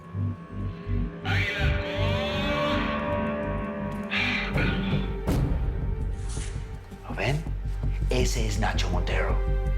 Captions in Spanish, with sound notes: [A gritos] ÁGUILA A HALCÓN. - ¿LO VEN? ESE ES NACHO MONTERO.